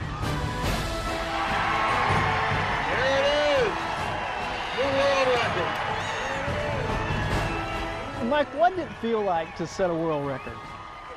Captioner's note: applause